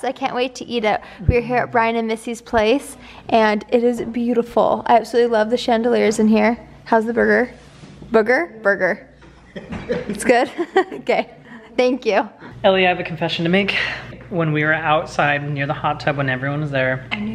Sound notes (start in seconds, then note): 9.3 laughs